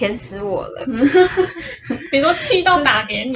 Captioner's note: laughter